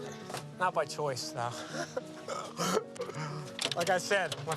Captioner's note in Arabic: يضحك